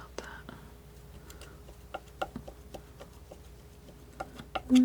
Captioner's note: tapping